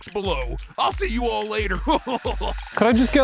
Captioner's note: laughing